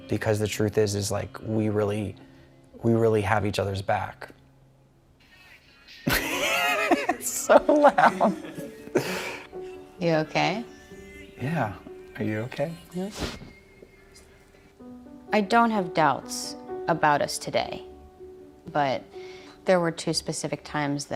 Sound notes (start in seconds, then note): 6.0 laughing